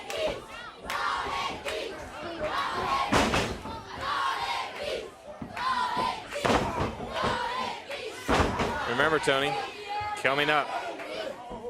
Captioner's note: crowd cheering